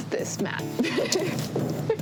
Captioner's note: laughs